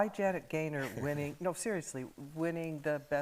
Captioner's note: chuckles